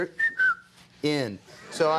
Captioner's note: whistles